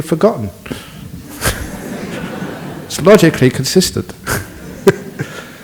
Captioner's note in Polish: Śmiech